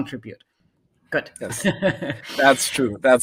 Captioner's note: laughs